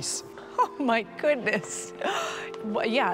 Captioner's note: laughs